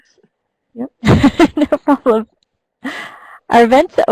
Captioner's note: chuckles